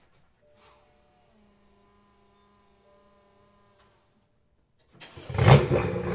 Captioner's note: Semi autistic Prius electric noises